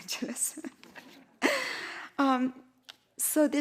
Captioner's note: chuckling